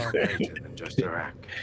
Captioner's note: laughter